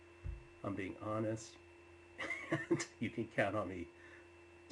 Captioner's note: laughs